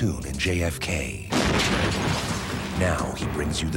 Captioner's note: explosion